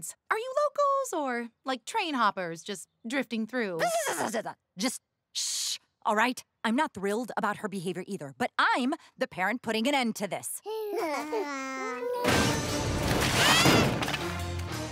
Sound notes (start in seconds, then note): 10.6 babbling